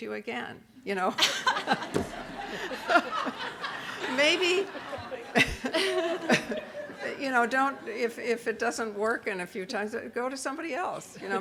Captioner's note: audience laughter